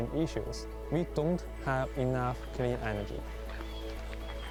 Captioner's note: speaking Chinese